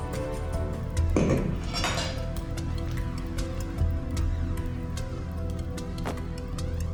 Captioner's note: tense music continues; tense music; glass thudding